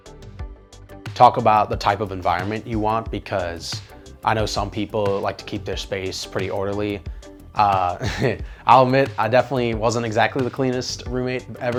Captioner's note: laughs